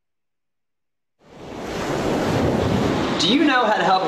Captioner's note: air whooshing